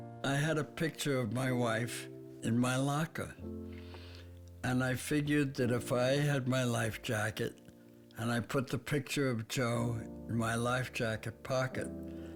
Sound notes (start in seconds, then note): none